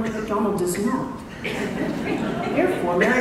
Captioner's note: laughter